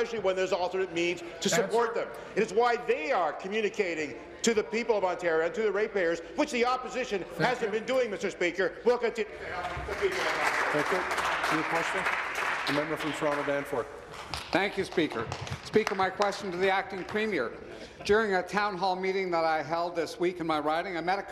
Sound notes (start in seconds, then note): 13.7 applause